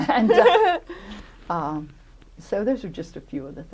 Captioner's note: laughter